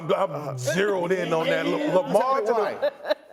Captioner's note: laughter